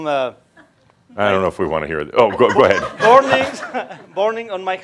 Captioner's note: more chuckles